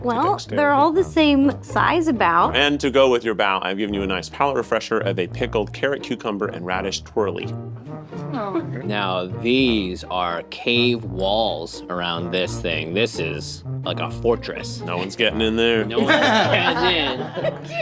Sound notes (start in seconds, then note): 15.9 all laughing